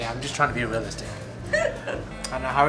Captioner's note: laughs